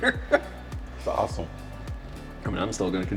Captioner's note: laughs